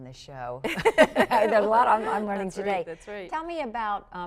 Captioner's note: laughter